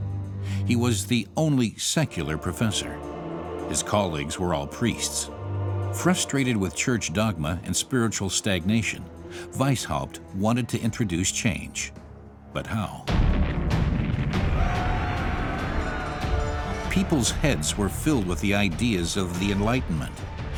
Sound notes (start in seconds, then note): 12.9 mob shouting; 13.1 explosion